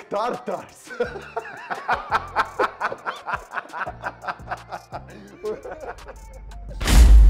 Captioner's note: laughing